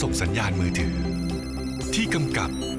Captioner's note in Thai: เสียงโทรศัพท์